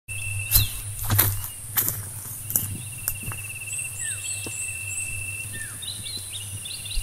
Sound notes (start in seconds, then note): 0.4 footsteps